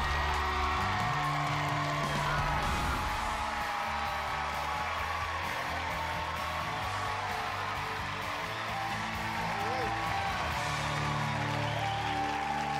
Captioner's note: all cheering and applauding